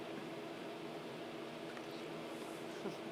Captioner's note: chuckles